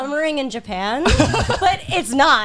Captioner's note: guys laughing